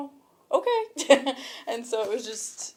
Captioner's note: chuckles